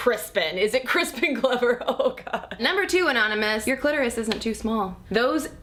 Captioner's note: laughs